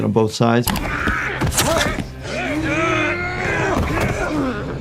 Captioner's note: fighting and grunting